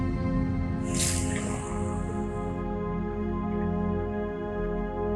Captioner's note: water running; tense music continues